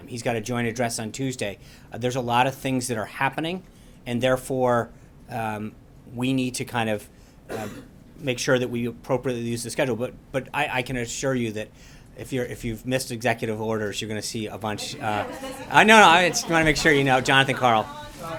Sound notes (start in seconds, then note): 14.8 laughter